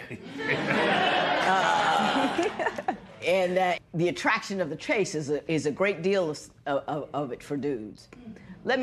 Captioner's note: laughter